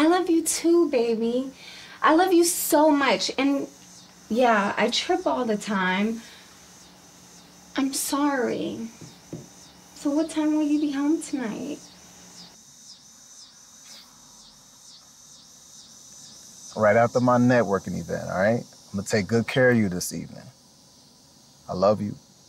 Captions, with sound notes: - I love you too, baby. I love you so much. And yeah, I trip all the time. I'm sorry. So what time will you be home tonight? (crickets chirping) - Right after my networking event, all right? I'm gonna take good care of you this evening. I love you.